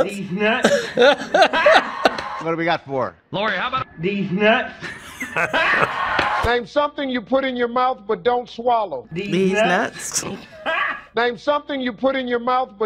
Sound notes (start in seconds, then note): 0.4 laughing; 4.8 laughing; 5.4 game audience cheers; 10.0 man cracks up